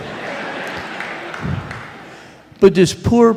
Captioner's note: laughter